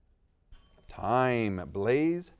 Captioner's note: bell dings